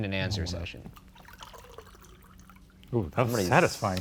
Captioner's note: liquid rushing